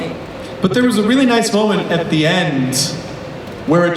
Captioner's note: voiceover